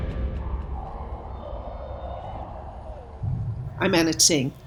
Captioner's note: wind whistling